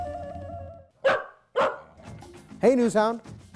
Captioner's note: NewHound barking